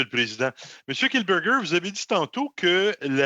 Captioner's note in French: voix de l'interprète